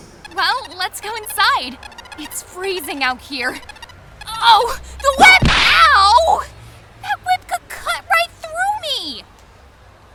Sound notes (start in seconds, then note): 5.3 whip crack!